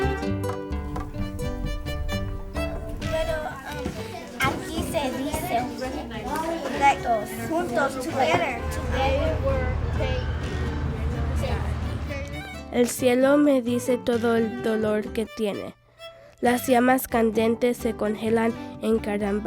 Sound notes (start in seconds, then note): 2.2 conversation in spanish; 12.9 speaking spanish